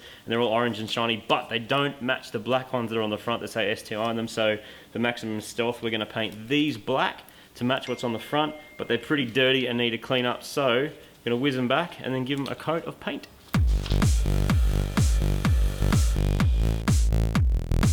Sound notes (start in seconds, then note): 7.8 message chime; 13.7 bench grinder